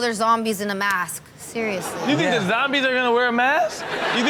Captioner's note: audience laughs